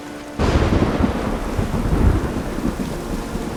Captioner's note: thunder crashes